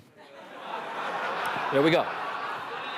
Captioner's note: laughter